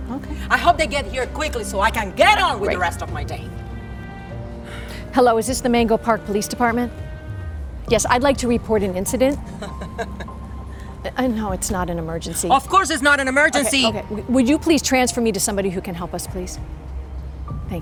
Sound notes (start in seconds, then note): 9.4 driver chuckling